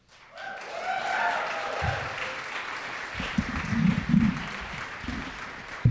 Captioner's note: audience cheering and applauding